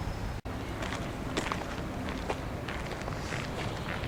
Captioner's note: footsteps on Rocks